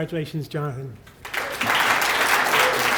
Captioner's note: applause